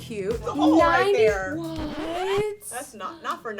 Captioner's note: record scratches